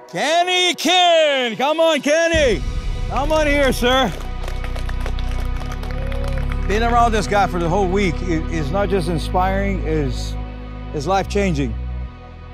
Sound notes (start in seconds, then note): 3.6 group applauds